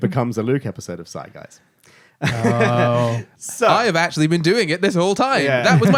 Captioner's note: laughing